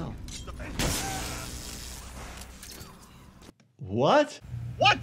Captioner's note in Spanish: electricidad crepitante